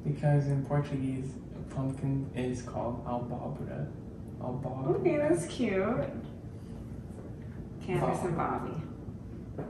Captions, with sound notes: - Because in Portuguese, a pumpkin is called (man speaking foreign language) - Okay, that's cute. Candice and Bobby.